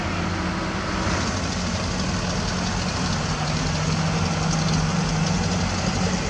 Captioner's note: engine Rev